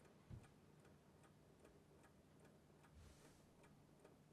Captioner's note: clock ticking